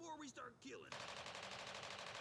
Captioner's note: machine gun fire